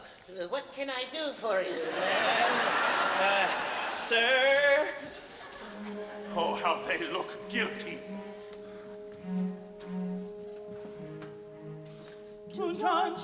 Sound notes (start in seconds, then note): 1.4 audience laughs; 8.7 ominous orchestral music